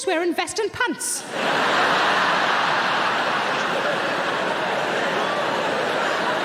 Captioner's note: audience laughing